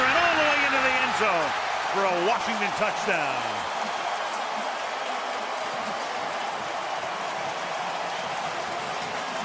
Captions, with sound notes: around the corner and all the way into the end zone for a Washington touchdown. [cheering]